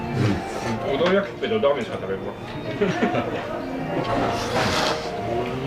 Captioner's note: laughs